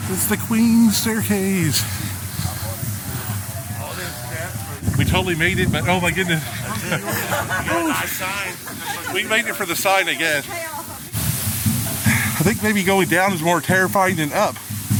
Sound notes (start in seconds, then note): 6.4 woman laughing